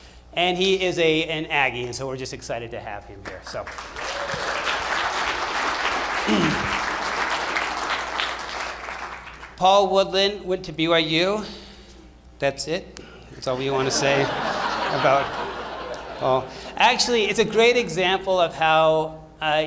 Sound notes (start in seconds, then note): 3.5 applause; 13.5 laughter